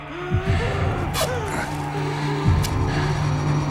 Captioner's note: pants